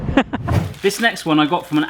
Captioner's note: laughter